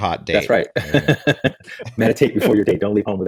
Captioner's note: laughs